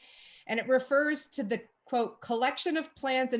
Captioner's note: none